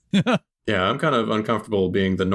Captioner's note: laughter